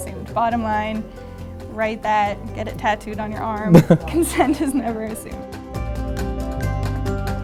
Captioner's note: laughs